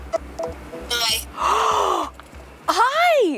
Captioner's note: Justine gasps